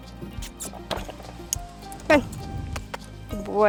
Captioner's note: chirrups